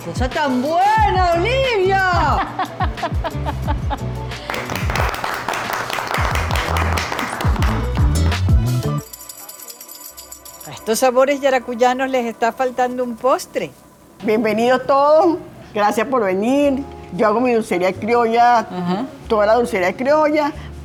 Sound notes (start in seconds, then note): 4.4 applause